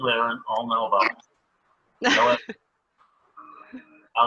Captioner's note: laughter